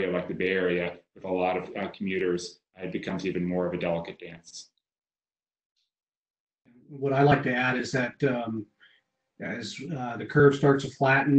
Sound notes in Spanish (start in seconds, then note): 6.1 voz superpuesta